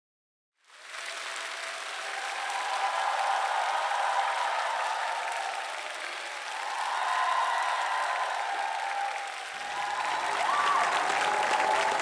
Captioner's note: applause